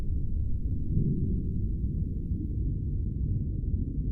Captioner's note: low hum